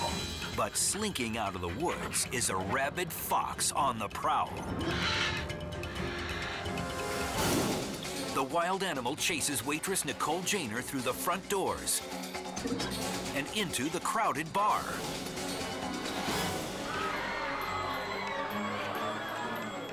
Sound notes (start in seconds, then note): 0.0 fox panting; 4.8 fox snarls; 16.6 patrons screaming